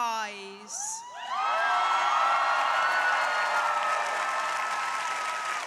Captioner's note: crowd applauding